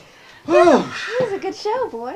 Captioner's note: all laughing; exhales